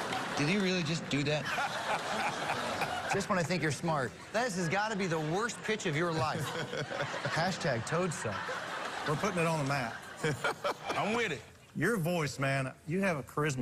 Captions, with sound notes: just do that? [ Laughter ] Just when I think you're smart. This has got to be